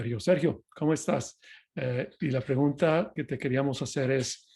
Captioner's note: spanish